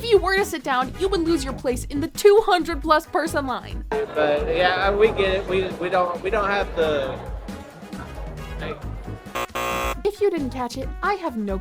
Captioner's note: loud incorrect buzzer